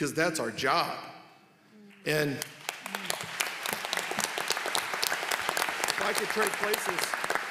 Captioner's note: applause